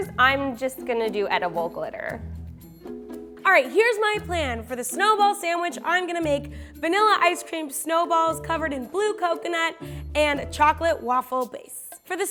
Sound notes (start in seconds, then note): none